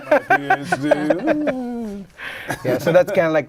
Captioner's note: laughter